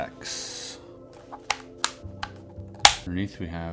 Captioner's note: buttons clicking